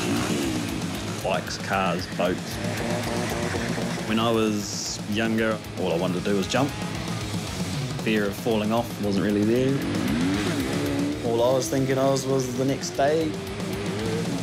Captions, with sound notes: Bikes, cars, boats. (TYRES SCREECH) When I was younger, all I wanted to do was jump. Fear of falling off wasn't really there. All I was thinking of was the next day.